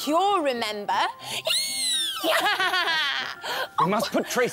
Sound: witchy cackle!

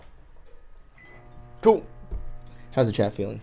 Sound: microwave beeping

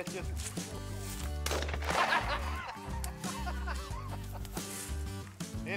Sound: gun fires; laughs

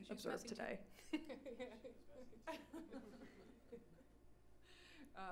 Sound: laughs

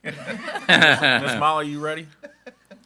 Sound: group laughing

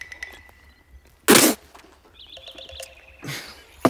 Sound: spits

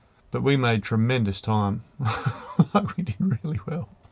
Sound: laughs

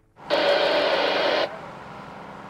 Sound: radio static

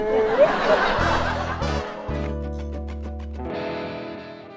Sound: audience laughs

